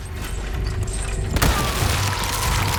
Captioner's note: bang